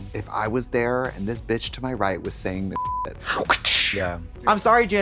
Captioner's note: beep